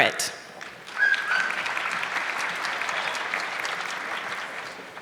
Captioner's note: audience clapping